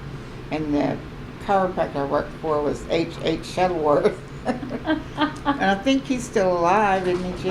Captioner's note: laughter